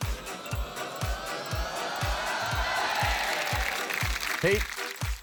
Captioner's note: cheering, applause